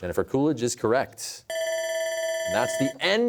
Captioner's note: bell ringing